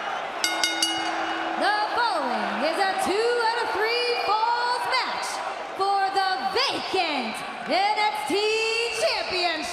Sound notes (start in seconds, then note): 0.0 crowd cheering; 0.4 bell ringing